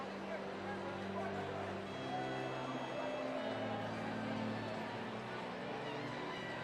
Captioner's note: background chatter